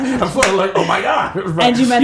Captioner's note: laughter